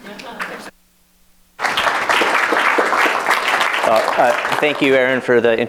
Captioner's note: applause